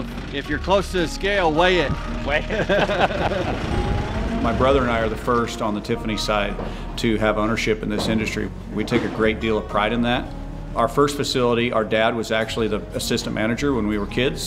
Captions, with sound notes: If you're close to a scale it weigh it weight it [laughs] My brother and I are the first on the Tiffany side to have ownership in this industry we take a great deal of pride in that. Our first facility, our dad was actually the assistant manager when we were kids